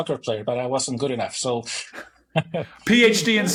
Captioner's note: chuckling